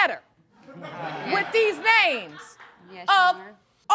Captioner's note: audience laughing